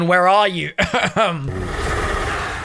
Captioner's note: coughs